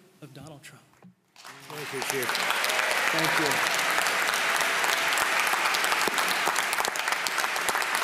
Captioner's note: applause